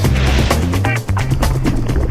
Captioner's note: air whooshes; liquid pours